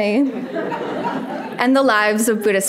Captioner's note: audience laughing